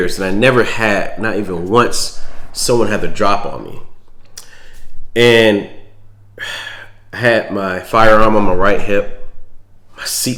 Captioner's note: sigh